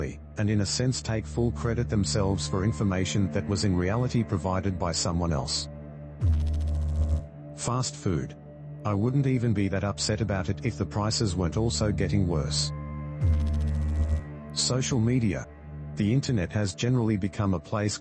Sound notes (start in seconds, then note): 6.2 electrical noise; 13.2 electrical noise